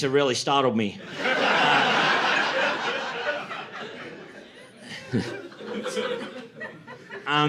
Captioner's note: laughter